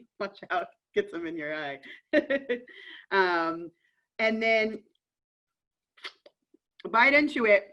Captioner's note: laughter